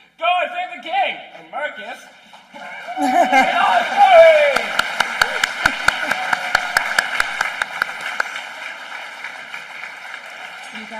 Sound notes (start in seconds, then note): 4.2 applause